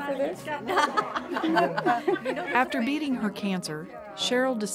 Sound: laughter

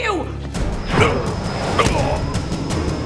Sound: grunting

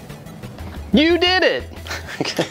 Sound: laughs

